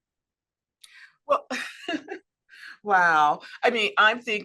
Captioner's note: laughs